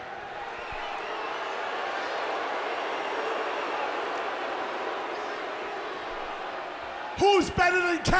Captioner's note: crowd cheering